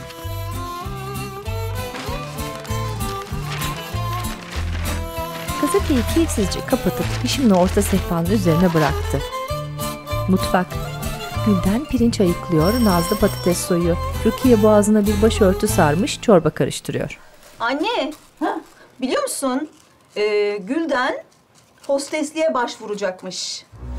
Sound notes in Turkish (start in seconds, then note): 12.0 Kapı zili sesi